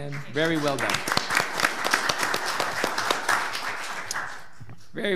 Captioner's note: audience applauds